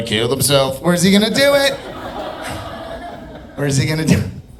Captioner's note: audience laughing